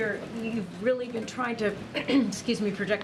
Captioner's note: clears throat